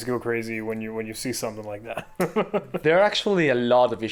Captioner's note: chuckling